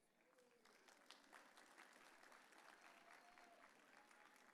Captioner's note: audience cheering